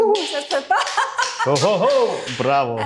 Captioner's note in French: rires